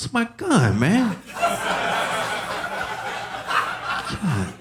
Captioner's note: audience laughing